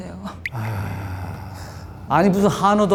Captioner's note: sigh